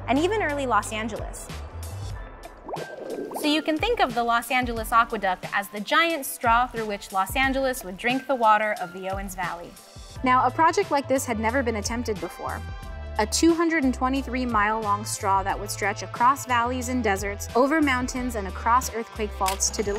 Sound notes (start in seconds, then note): 2.5 water burbles